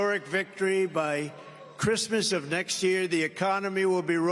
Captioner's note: cheers and applause